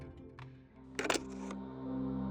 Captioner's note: slide clicks; thoughtful music